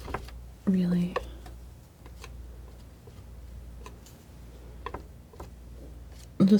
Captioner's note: tapping